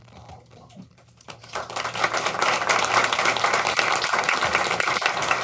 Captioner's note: applauding